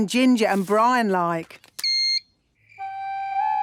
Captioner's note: beep!